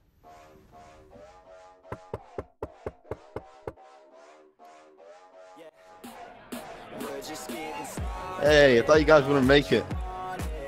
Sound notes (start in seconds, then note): 1.9 door knocking; 5.7 music gets louder